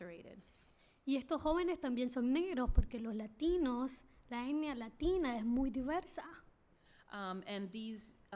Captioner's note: speaking spanish